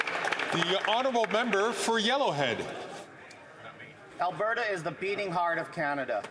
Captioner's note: some Applause